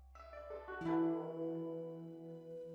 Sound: none

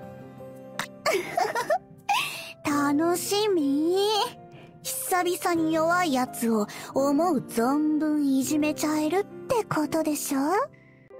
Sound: giggle

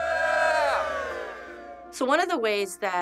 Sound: cheering

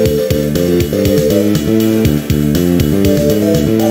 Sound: vrooom!

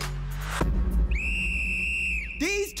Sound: whistle blows

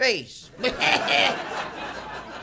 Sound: phlegmy coughs

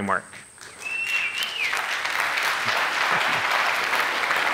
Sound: applause

